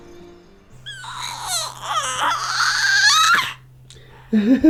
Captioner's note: birds chirping; fussing; chuckles